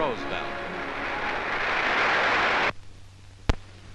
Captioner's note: applause